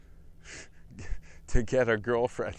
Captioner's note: laugh